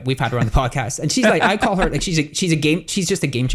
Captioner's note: laughs